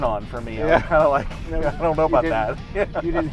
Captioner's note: laughing